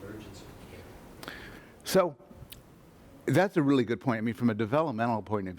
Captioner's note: voiceover